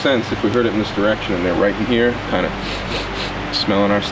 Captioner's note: sniffs